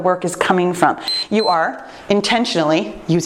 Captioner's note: timer beeps